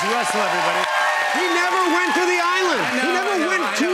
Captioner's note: cheers and applause